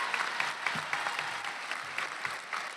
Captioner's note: applause